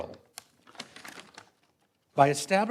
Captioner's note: papers rustling